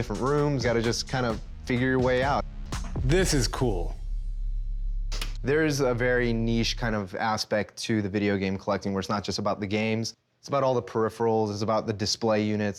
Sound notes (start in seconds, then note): 5.1 button clicks